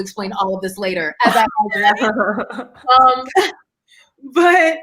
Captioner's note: murmurs